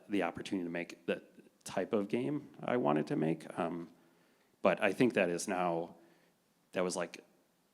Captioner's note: none